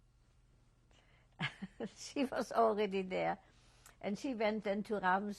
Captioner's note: laughs